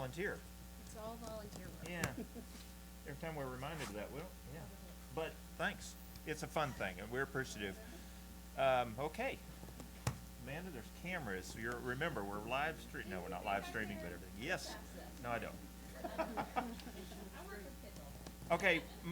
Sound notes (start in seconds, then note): 15.8 laughter